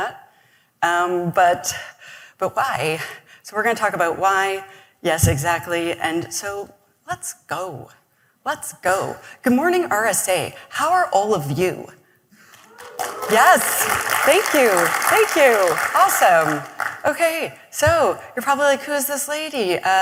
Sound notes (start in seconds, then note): 12.5 applause